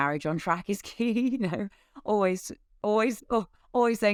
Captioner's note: giggles